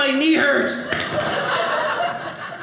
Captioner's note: audience laughing